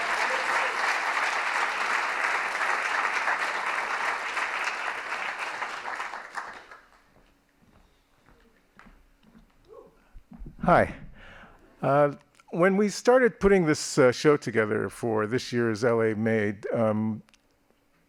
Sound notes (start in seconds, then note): 2.8 applause